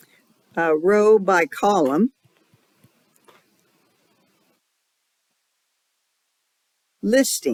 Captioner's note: 5-second silence